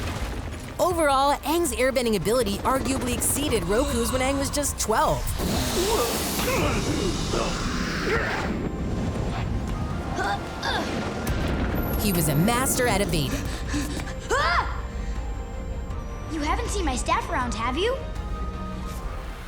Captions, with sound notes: Overall, Aang's airbending ability arguably exceeded Roku's when Aang was just 12. [grunting] [grunting] He was a master at evading. Ah! You haven't seen my staff around, have you?